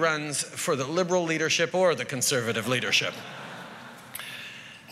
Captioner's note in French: Rires